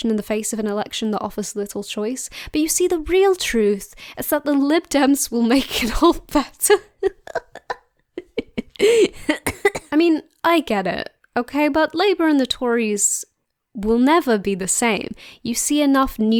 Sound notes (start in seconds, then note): 6.5 laughing; 8.2 coughing and spluttering